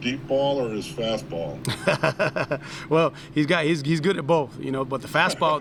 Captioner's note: laughs